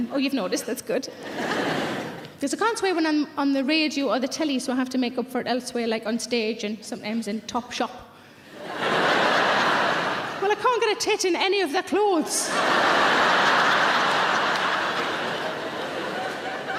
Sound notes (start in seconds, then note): 8.5 audience laughing; 12.4 audience laughing